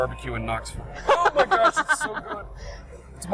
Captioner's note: laughs